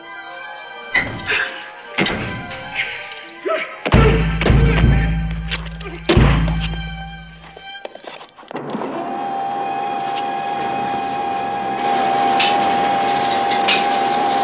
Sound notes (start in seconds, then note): 0.9 suspenseful music; 3.9 bangs echoing; 8.7 machine whirring